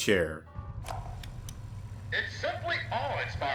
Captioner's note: tape recorder plays